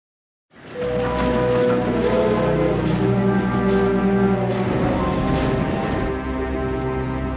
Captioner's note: train chugging and whistle